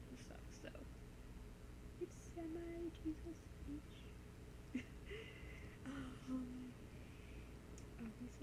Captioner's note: laughs